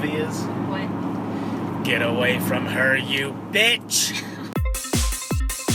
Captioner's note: dramatically; laughs; dance music